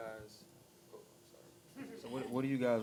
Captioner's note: giggling